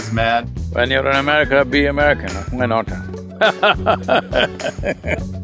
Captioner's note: both laugh